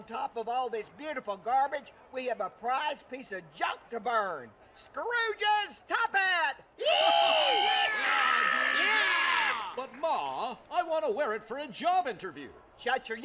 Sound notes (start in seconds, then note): 6.8 cheering and whooping